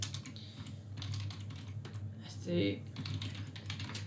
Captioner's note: keyboard clicks